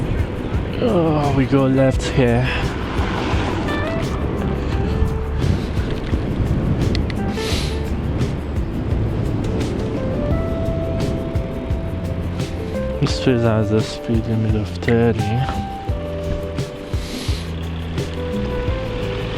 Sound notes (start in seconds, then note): 2.2 wind Blowing